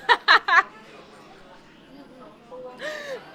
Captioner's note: laughing